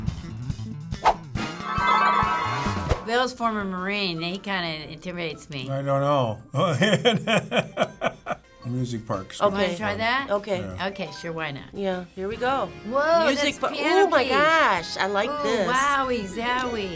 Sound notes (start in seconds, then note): 6.6 chuckling